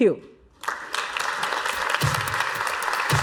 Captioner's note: applause